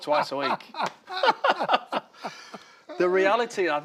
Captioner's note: both laughing